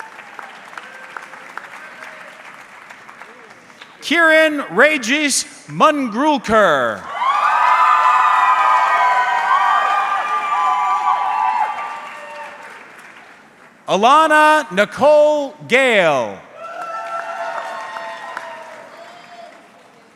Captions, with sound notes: (audience clapping) Kiran Regis Mangrulkar. (audience cheering) Alana Nicole Gale. (audience cheering)